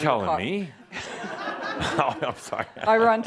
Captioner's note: laughter; chuckles